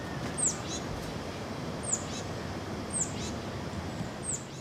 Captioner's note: chirping sounds of birds outside